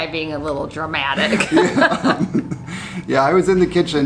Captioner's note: laughing